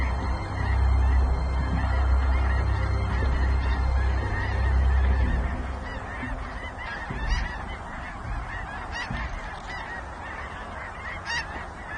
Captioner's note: geese honk